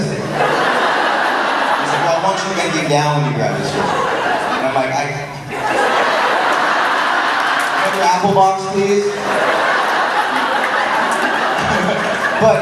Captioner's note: crowd laughing